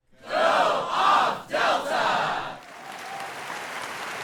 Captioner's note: chanting; audience applause